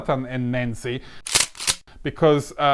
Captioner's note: shotgun loading